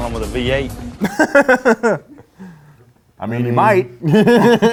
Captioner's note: laughs